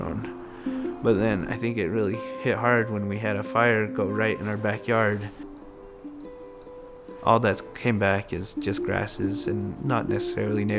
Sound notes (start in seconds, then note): none